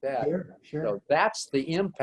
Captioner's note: pat